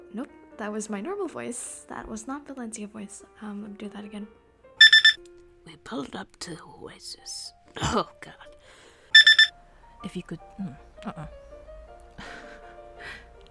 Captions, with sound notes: Nope. That was my normal voice. That was not Valencia voice. Um, do that again. [clears throat] Oh, god. [laughs]